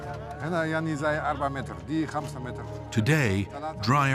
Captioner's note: speaking Arabic